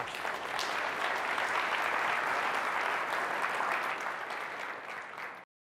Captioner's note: applause